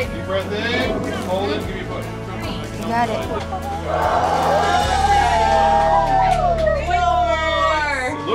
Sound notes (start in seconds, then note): 3.8 everyone cheering